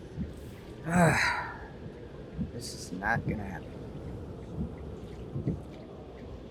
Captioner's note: sighing